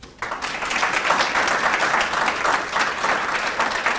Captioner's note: claps